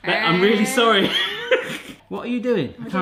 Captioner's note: laughs